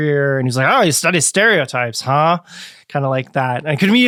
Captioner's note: grumpily